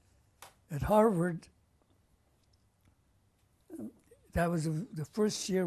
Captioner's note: pauses for 3 seconds